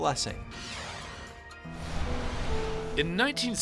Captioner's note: whooshing